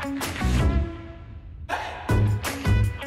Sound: air whooshing; bright upbeat music continues

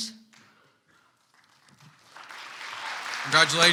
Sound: audience applauds

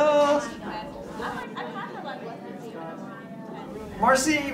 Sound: students chatter

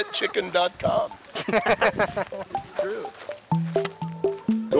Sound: laughs

